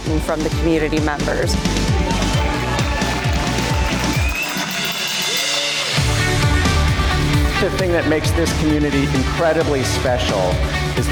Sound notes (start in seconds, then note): 1.6 upbeat electronic music; 1.6 people cheering